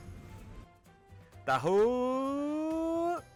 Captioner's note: imitating a "taho" vendor's voice